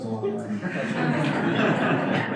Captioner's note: audience laughter